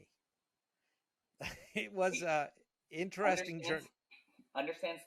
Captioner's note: laughing